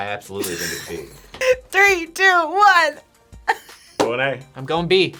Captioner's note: laughs